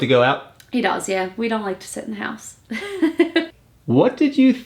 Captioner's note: laughs